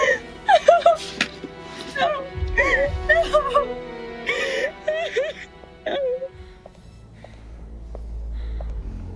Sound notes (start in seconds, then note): 1.7 Blair cries